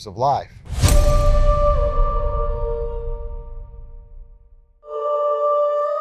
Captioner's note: image crashes